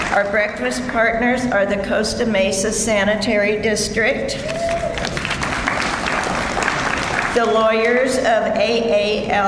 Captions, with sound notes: Our breakfast partners are the Costa Mesa Sanitary District. (audience member cheers) (audience applauds) The Lawyers of AALRR.